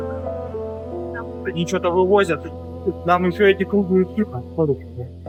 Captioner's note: russian dialogue continues